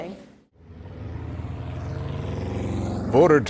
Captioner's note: motors running